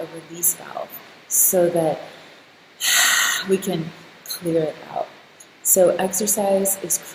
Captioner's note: exhaling loudly